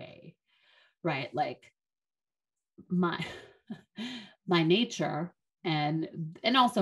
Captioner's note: chuckles